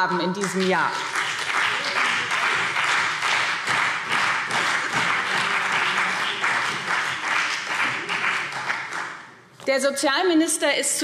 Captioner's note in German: Beifall BÜNDNIS 90/DIE GRÜNEN und CDU